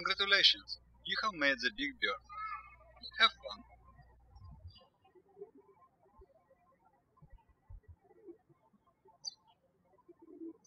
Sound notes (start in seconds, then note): 5.1 birds chirping